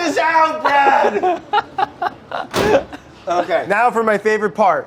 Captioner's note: laughing